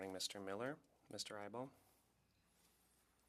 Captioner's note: speaking French